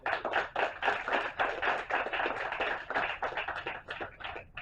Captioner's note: applause